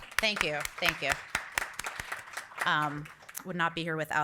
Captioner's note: audience applauding